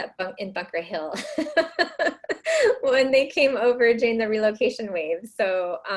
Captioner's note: laughs